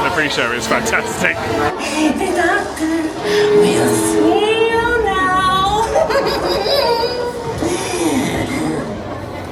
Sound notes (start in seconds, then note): 5.8 cackles maniacally